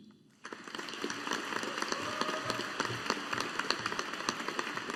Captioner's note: audience applauding